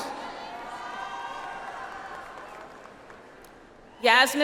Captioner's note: audience applauds